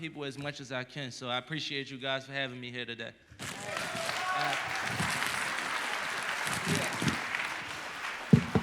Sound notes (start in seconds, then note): 3.4 applause